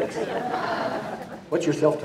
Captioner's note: audience laughing